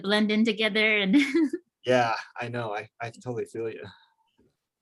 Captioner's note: laughs